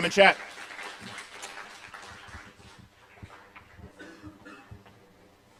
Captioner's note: applause